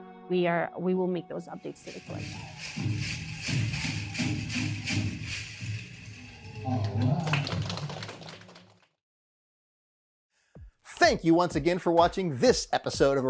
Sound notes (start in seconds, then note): 3.2 instrument rattling; 6.2 audience applauds